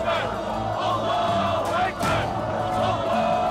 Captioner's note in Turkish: Hep bir ağızdan